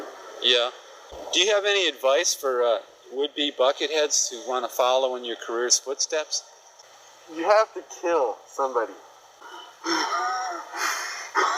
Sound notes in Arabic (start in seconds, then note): 9.8 شرير يضحك